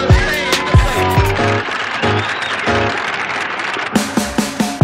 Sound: applause

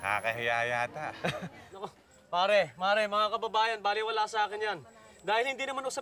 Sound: chuckles

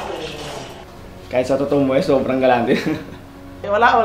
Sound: laughter

